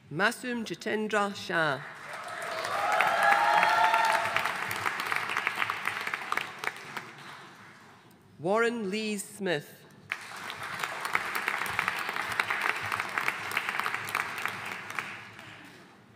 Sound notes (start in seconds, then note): 1.9 audience cheering and applauding; 10.1 audience applauding